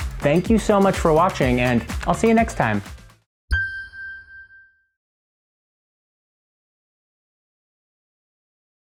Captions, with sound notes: Thank you so much for watching and I'll see you next time [Chime]